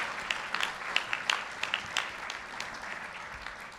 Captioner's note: applause